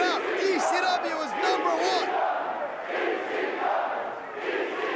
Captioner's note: crowd cheering